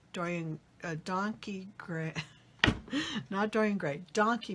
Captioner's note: laughs